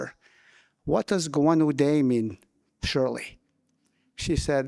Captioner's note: speaking in</b> <b>Wolastoquey